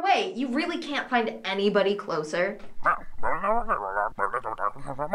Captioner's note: distorted voice